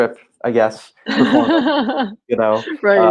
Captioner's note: laughing